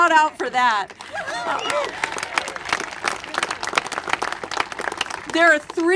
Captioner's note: congregation applaud